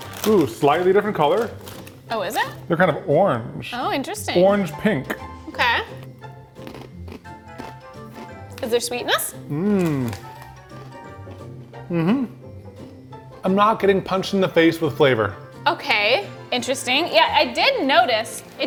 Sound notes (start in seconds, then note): 6.2 playful music; 6.5 Takis crunching